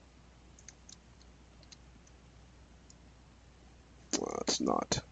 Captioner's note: mouse clicking